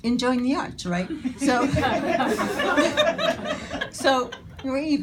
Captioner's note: audience laughing